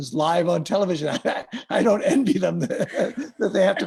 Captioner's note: laughs